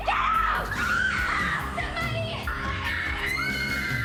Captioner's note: screaming